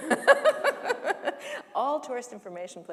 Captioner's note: laughter